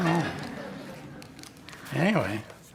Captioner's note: all laughing